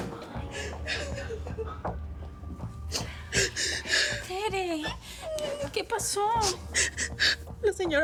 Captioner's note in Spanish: Sollozos